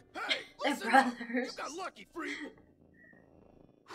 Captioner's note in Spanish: riendo